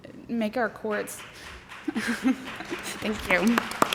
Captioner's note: applause